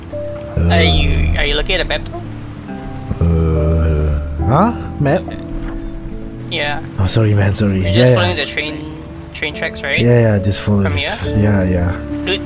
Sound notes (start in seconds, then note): 0.5 groans